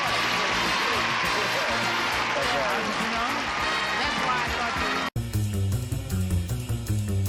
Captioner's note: applause